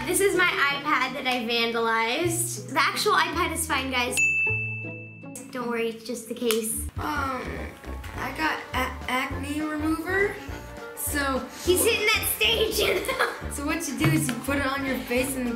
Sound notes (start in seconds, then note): 4.2 dinging; 12.6 laughing